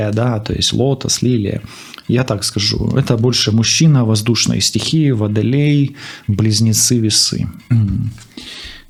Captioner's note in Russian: фыркает